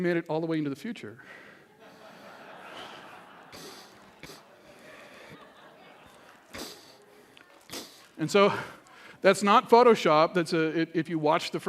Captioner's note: laughter